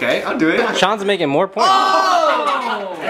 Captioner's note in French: gémissements